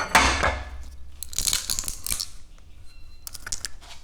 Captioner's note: metal can crunching